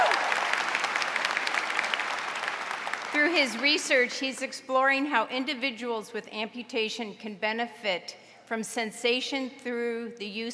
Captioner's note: applause